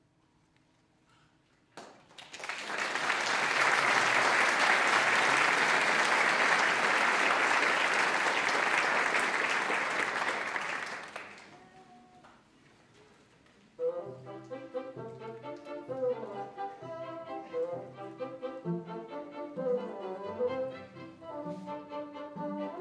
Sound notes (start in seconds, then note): 1.7 applause